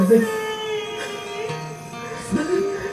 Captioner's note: cries